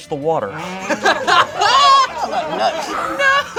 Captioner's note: group laughs